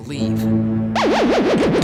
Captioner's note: none